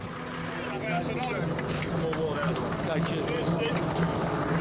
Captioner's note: people chatting